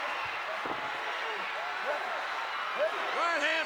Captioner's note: applause